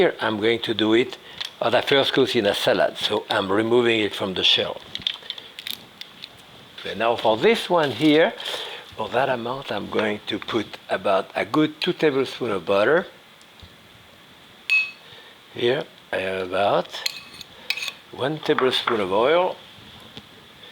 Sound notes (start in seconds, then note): 5.6 shells clicking; 14.7 utensil clanging